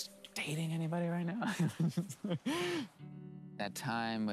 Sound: laughs

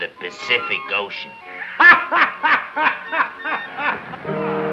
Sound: laughing

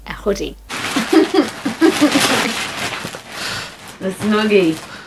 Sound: giggling

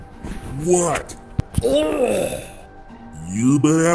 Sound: disgusted Grunts

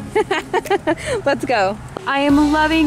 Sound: laughing

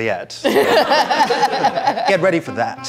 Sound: audience laughing

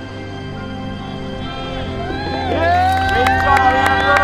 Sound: people cheering

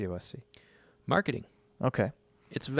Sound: emphatic

